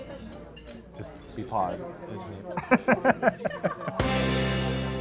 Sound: laughs

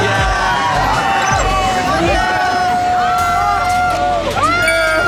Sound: is already crying

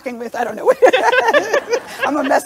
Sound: laughs

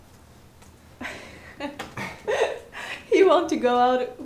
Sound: laughs

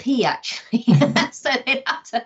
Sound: both women chuckle

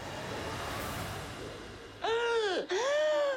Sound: gasps

